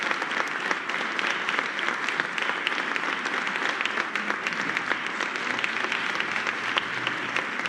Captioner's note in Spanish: aplausos